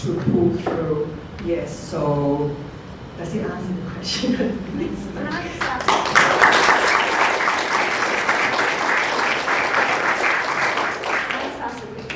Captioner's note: clapping